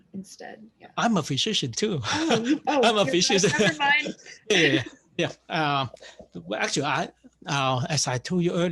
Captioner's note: laughs